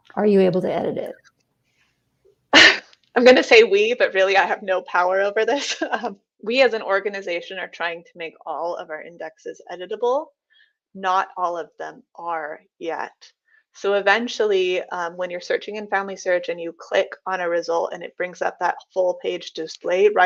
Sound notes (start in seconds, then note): 5.7 chuckles